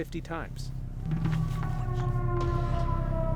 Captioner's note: eerie sounds